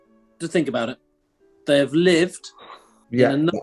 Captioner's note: sniggering